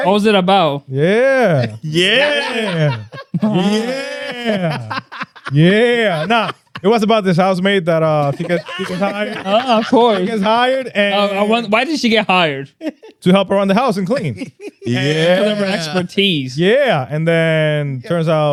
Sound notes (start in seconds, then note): 3.5 laughing